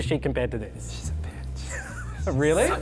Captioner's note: laughs